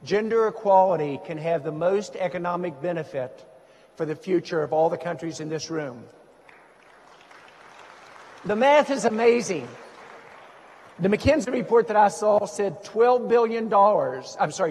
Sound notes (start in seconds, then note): 6.5 audience applauds